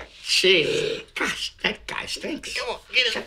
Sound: farting

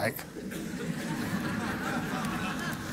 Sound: laughter

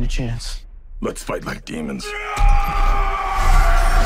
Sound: yells

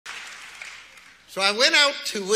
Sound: audience applauds

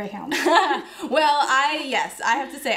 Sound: chuckles

